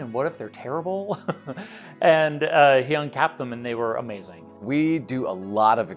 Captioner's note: chuckles